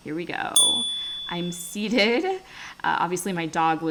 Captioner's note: chime